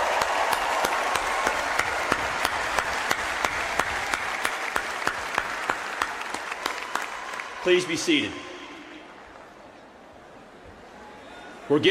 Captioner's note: applause